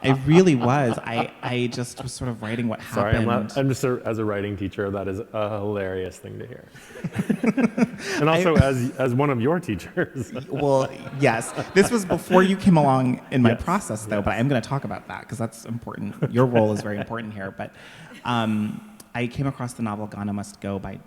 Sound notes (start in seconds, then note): 9.6 audience laughing